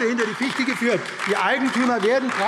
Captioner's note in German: Beifall AfD